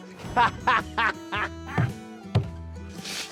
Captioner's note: laughing